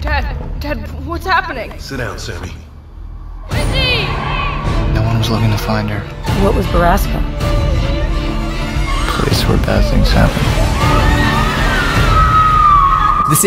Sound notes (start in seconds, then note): 10.5 scream